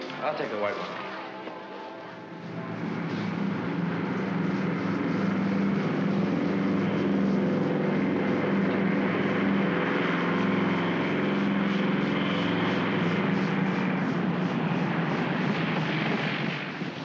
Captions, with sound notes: - I'll take the white one. (aircraft rumbles)